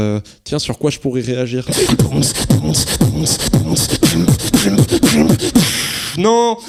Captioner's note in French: beatbox